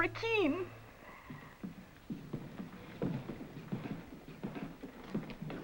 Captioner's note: footsteps approach